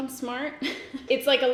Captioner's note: giggles